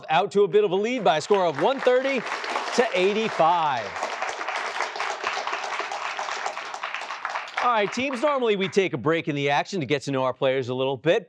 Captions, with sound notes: out to a bit of a lead by a score of 130 to 85. [applause] All right, teams, normally we take a break in the action to get to know our players a little bit,